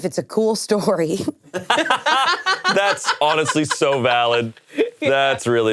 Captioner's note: laughs